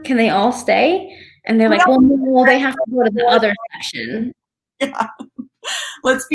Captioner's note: audio distorting; laughs